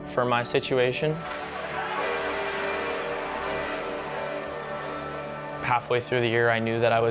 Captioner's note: crowd cheering; airhorn blasting